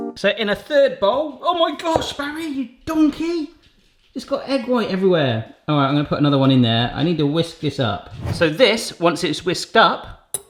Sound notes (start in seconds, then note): 8.0 air whooshing